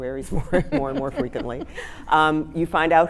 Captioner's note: laughing